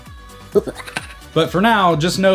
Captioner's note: evil Laugh